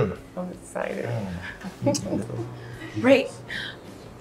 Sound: Rachel chuckles

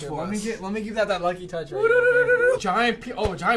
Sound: vocalizing

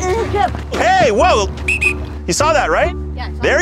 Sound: whistle

